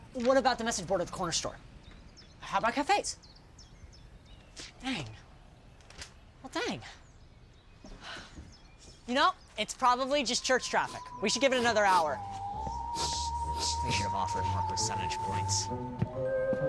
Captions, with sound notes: What about the message board at the corner store? How about cafes? Dang. Well, dang. You know, it's probably just church traffic. We should give it another hour. (VISH SNIFFING) We should have offered more percentage points.